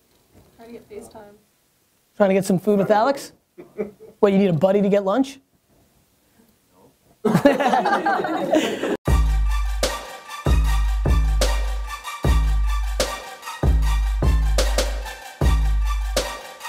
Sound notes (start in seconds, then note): 7.2 laughter; 9.0 outro music